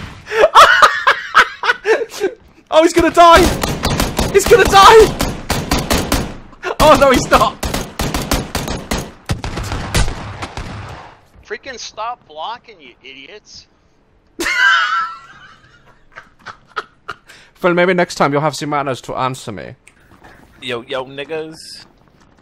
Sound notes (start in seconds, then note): 0.3 laughs; 9.5 gunfire continues; 14.4 laughs; 17.2 German accent